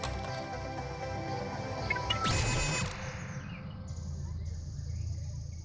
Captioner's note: login chime; digital noises